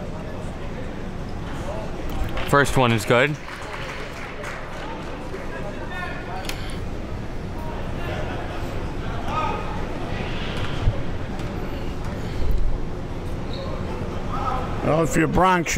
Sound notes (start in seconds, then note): 3.8 crowd applauds; 7.2 crowd talking